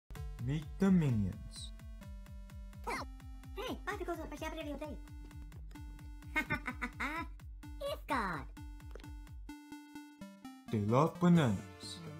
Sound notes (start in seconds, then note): 2.6 both grunting; 4.4 speaking minionese; 6.3 laughing; 7.6 speaking minionese